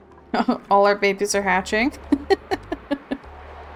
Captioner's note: laughs